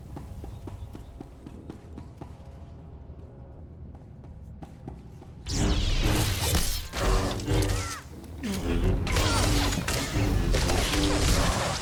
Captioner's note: gunshots